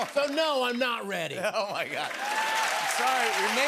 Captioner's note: cheers and applause